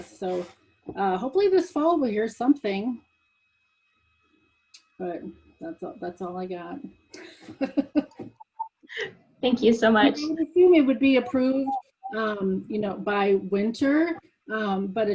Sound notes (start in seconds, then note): 7.2 laughs